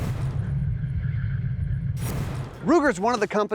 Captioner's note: electronic whirring